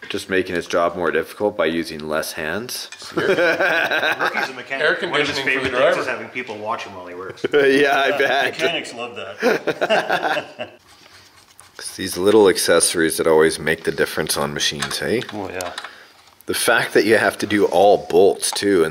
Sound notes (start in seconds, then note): 3.1 laughs; 9.4 laugh